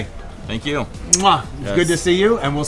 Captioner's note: kiss